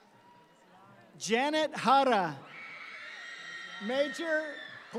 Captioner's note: audience cheering